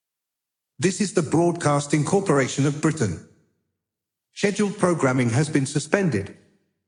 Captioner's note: none